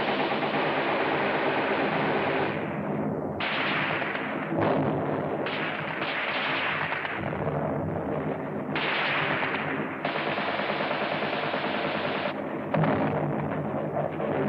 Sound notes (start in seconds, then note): 3.4 explosion; 8.3 gunshots; 12.7 explosion